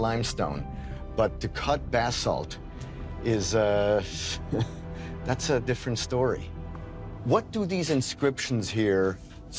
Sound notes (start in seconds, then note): 4.3 chuckles